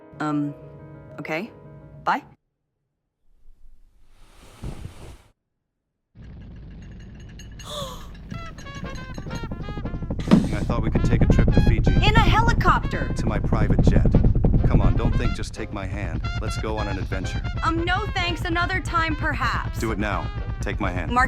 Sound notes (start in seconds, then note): 5.9 apartment rumbling; 7.6 Abigail gasps